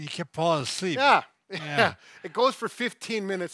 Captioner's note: laughing happily